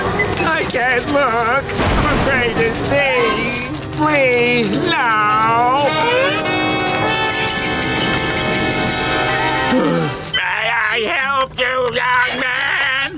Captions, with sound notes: I can't look! I'm afraid to see. Please, no. [gasping] May I help you, young man?